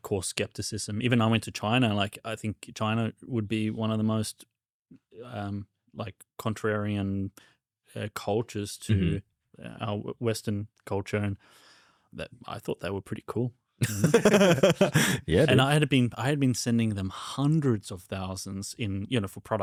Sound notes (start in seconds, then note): 13.8 laughs